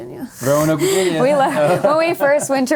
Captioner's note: laughter